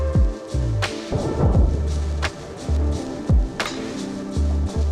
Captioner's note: water splashing